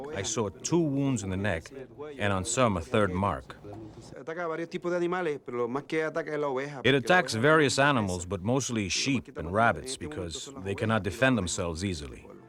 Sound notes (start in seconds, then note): 4.6 speaking spanish